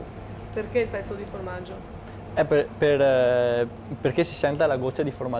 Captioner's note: speaks dialect